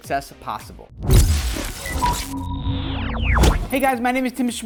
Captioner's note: whooshing